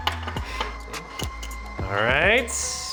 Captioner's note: motor whirring